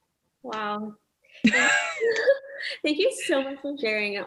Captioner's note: both laughing